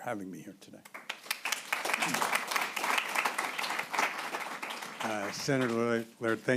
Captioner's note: applause